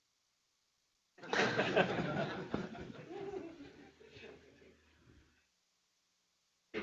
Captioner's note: laughter